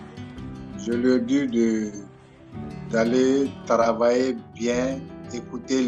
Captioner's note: calm music continues; crowd cheering; speaking in French